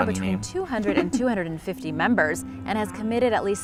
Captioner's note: giggles